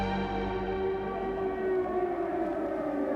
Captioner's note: air-raid sirens